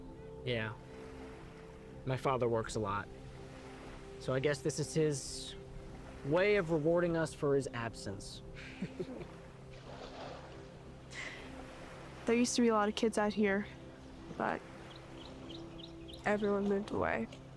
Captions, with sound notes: - Yeah, my father works a lot, so I guess this is his way of rewarding us for his absence. (Noah chuckling) - Hmm. (inhales) There used to be a lot of kids out here, but everyone moved away.